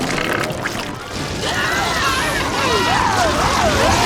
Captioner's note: screaming